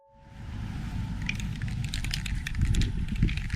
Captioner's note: can shaking